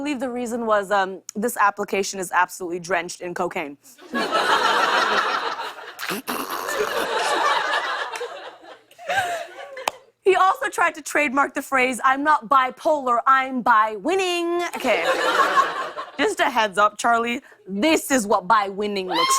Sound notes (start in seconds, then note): 4.0 laughter; 6.0 snorting; 14.8 laughter